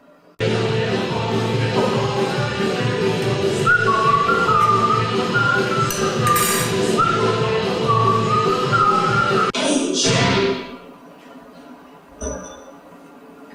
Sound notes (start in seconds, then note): 0.2 music blasting; 2.3 whistling